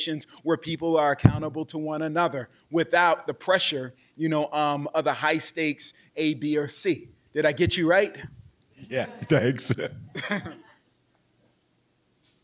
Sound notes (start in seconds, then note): 8.9 laughing; 9.1 chuckles